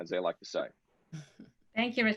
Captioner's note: chuckling